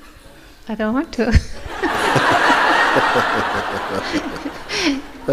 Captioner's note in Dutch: gelach